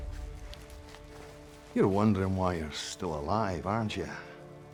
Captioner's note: scottish accent